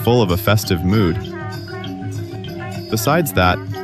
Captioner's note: laughs